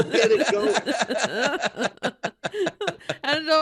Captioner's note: laughing